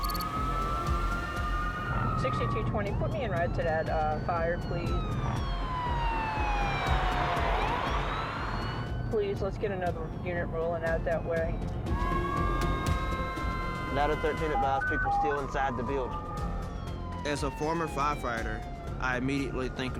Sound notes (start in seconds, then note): 0.8 ambulance siren; 7.6 police cruiser siren; 12.5 overlapping sirens